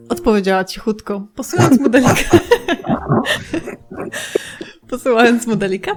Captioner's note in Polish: śmiech